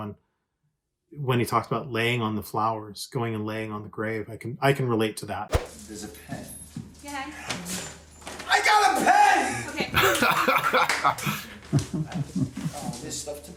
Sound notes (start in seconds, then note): 10.0 laughs